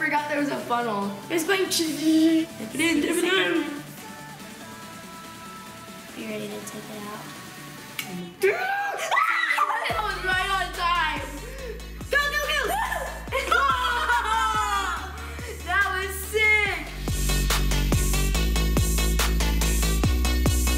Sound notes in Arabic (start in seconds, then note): 8.4 الصراخ; 8.4 يضحك; 12.4 يضحك; 12.6 الصراخ; 17.1 موسيقى البوب فعال